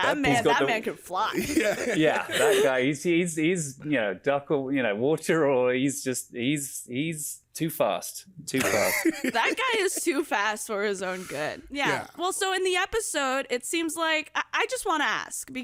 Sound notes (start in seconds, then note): 1.3 laughs; 8.6 laughs